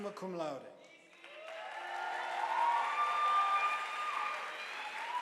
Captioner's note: audience applauding